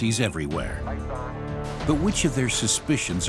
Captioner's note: chatter over radio